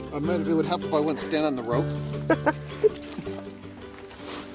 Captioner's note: gentle, melodic music; laughs